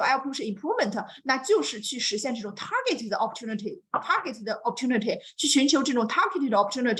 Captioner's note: speaks Mandarin